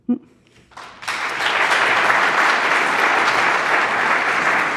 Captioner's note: audience applauding